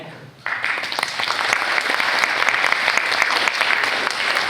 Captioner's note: students claps